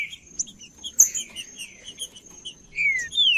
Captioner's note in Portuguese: trinca ferro cantando